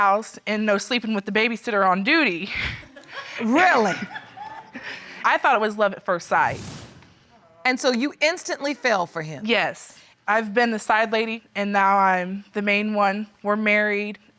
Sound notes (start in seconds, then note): 3.8 audience laughs